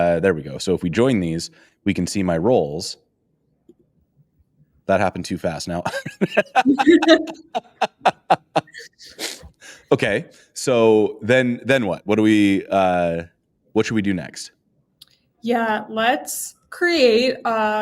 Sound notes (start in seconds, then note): 5.8 laughter